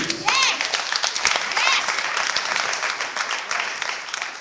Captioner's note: clapping